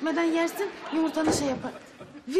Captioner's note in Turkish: Kapı kapanma sesi